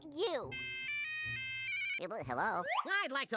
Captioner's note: cell phone ringing